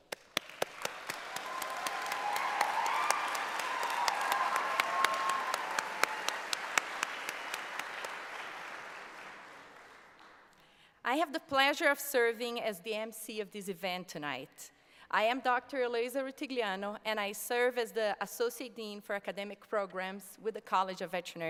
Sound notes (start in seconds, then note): 5.0 applause